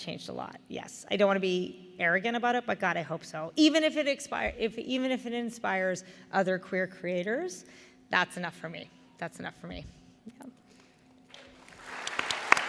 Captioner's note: applause